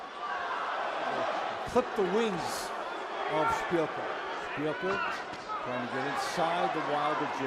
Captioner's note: cheer